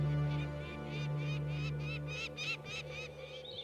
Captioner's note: bird chirping